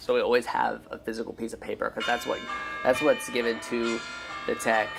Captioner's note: phone alarm goes off